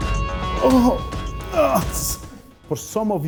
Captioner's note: groaning